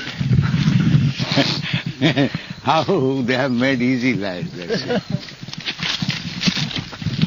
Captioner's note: laughing